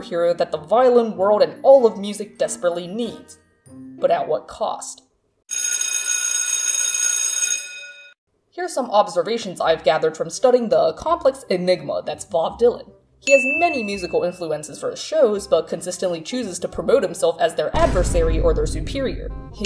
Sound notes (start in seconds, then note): 5.5 schoolbell ringing